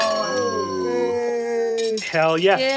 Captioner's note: players cheering; Kofi jingling his shine tokens in celebration